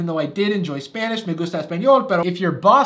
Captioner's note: speaking Spanish